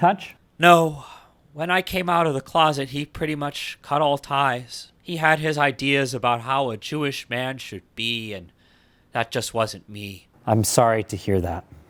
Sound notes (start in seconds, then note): none